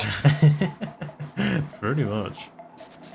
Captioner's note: chuckles